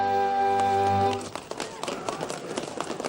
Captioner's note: music ends; applause